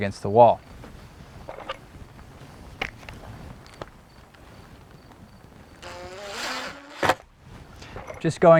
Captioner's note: drill whirring, no additional audio